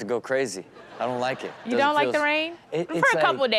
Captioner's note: audience laughs